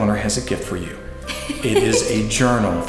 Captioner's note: laughs